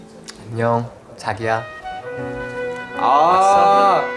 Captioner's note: bees are buzzing for honey collecting